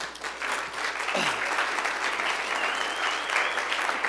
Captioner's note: applause